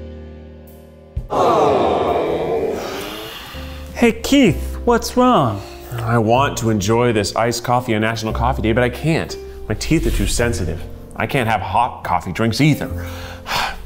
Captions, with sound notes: (audience awws) - Hey Keith, what's wrong? - I want to enjoy this iced coffee on National Coffee Day, but I can't. My teeth are too sensitive. I can't have hot coffee drinks either.